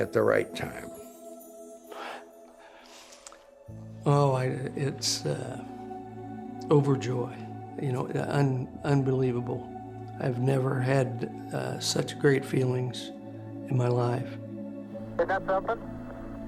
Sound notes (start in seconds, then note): none